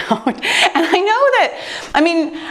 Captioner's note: laughs